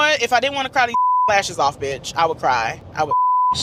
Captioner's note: beep